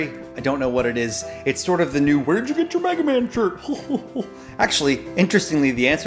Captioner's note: guffaws